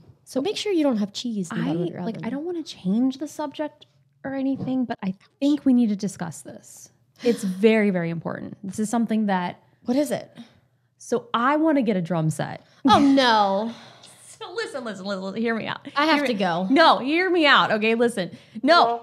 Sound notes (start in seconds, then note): 12.9 laughs